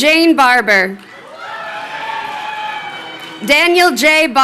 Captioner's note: crowd cheering